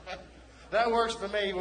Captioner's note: laughing